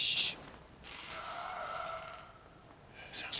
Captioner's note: zapping, groaning